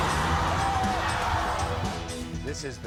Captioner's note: audience screams